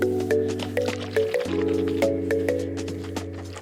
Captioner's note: sound of a bottle being shaken